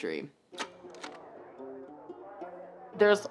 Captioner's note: slide clicks